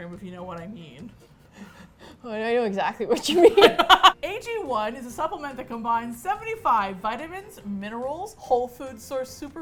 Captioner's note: laughing; laughs